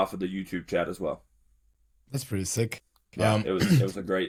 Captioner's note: clears throat